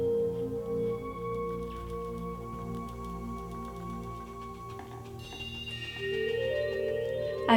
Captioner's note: rapid tapping